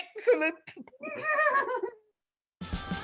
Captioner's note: Sir Andrew giggles